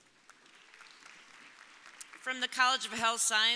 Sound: audience applauding

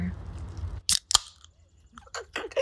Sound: pop of beer can tab; giggling

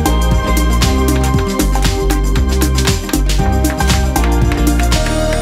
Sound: wood tapping

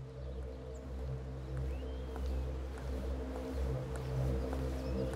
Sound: footsteps approaching

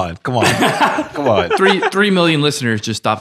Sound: laughing

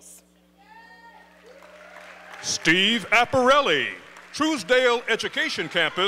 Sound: applause

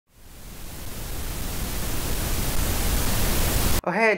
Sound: static

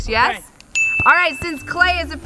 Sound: bell rings

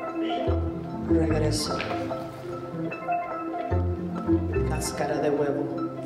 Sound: speaking in Spanish

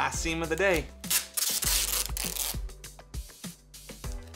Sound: tape sound

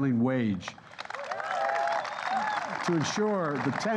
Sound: applause

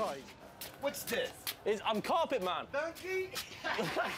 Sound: laughter

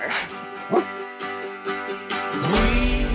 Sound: barks

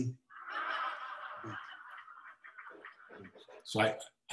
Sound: audience laughing

